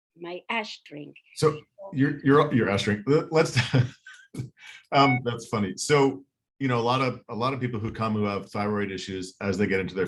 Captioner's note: laughs